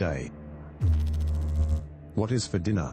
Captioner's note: electrical noise